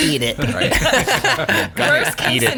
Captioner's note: laughing